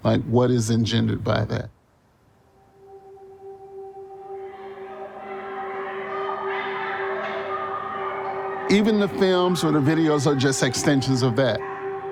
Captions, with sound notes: Like, what is engendered by that? (intense music) (background chatter) Even the films or the videos are just extensions of that.